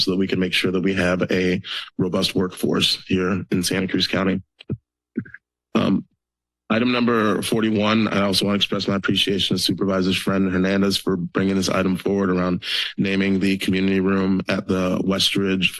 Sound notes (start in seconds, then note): 5.7 pause